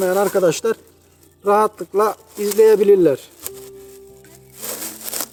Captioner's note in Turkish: poşeti açarken çıkan hışırtı sesleri